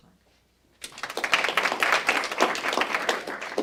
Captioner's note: applause